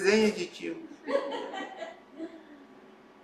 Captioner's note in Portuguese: risos